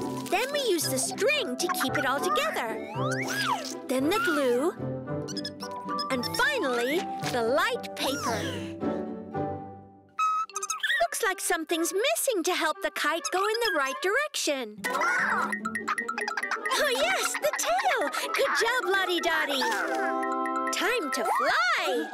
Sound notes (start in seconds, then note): 10.2 chirping; 14.8 exclaims